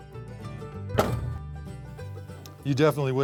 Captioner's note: car door closes